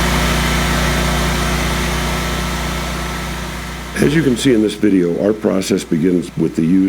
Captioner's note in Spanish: motor funcionando